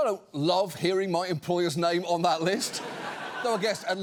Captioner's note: audience laughs